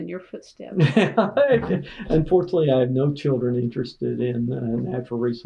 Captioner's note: laughter